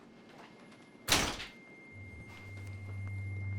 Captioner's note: door slamming; quietly tense electronic music